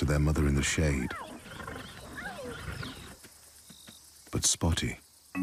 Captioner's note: cubs squeaking